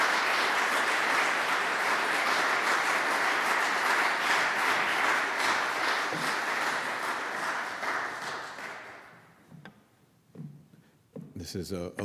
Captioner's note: applause